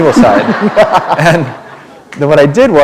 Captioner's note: laughter